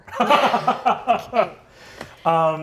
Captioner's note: laughing